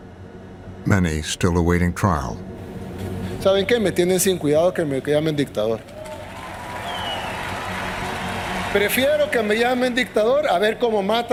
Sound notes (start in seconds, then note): 5.9 cheers and applause